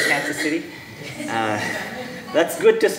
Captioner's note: audience laughing